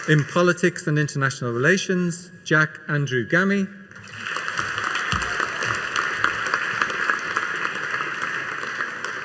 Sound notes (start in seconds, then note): 4.0 audience cheering and applauding